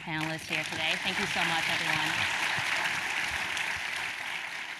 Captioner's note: applause